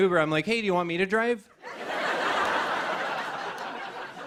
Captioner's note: laughter